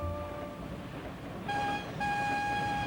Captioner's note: whistle blowing